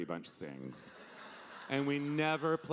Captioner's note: audience laughing